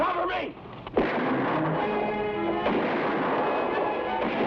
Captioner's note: gunshots blast